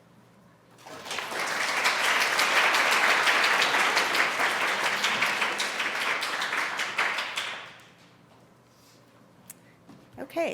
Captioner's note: applause